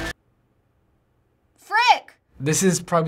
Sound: silence

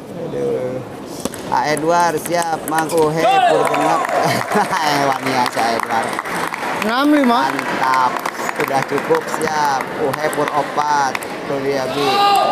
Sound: applause

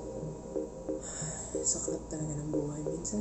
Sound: siiiiigghhhhhh

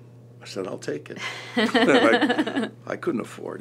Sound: laughter

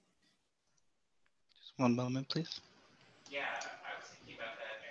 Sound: background talking

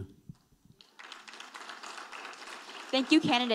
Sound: audience applauding

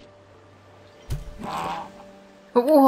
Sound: sea hen death noise

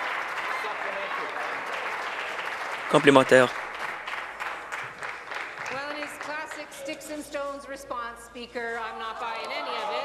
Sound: applause

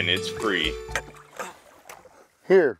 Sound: tired grunting

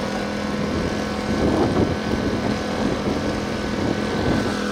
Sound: machine engine roaring

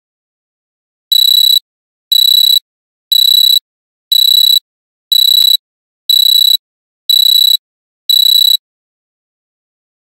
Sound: sound of alarm buzzer

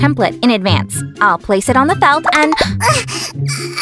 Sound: gasp

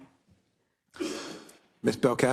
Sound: cough

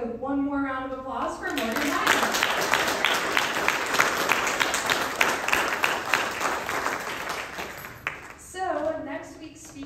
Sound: applause

